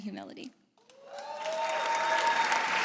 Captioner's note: audience cheers